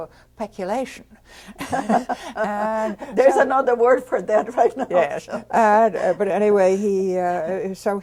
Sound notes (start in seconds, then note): 5.1 laughs